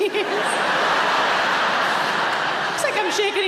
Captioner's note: audience laughing